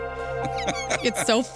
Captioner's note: laughing